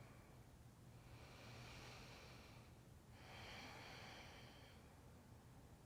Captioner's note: breathing